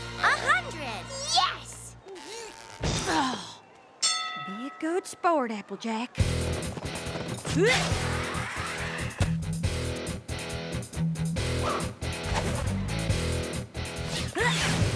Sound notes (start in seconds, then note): 2.0 grunts; 4.0 bell dings